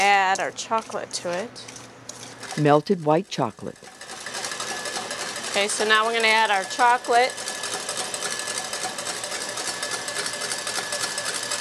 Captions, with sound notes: and we're gonna add our chocolate to it. - [Voiceover] Melted white chocolate. - Okay, so now we're gonna add our chocolate.